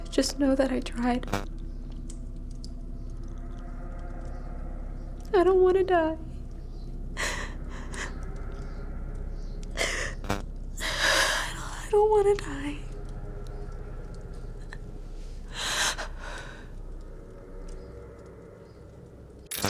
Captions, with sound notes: just know that I tried. I don't wanna die. (Kira sobs) I, I don't wanna die. (gloomy music) (fire crackling)